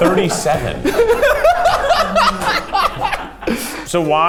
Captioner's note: laugh